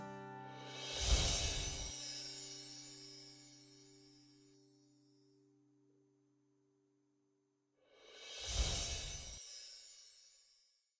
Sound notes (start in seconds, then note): 0.6 logos tinkling; 0.9 screen whooshing; 8.4 screen whooshing